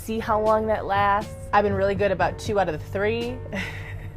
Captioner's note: nervous laugh